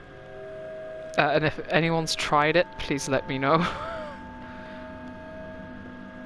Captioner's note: laughs